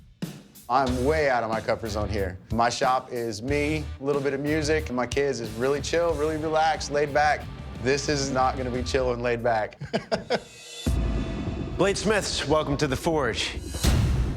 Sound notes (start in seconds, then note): 9.7 laughs